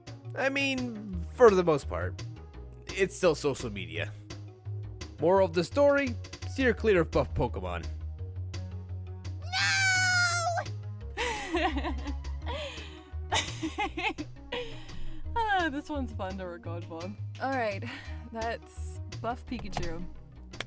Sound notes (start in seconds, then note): 11.2 laughter